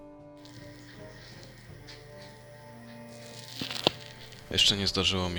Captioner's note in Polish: wiatrak noises